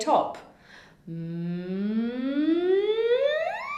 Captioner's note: humming